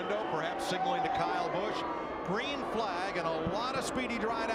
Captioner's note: cheering